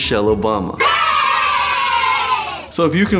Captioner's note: children cheering